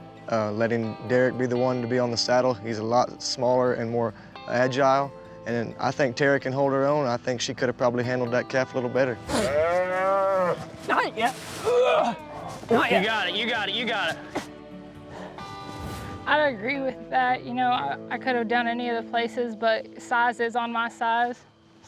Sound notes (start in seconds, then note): 9.2 grunting; 9.2 calf moos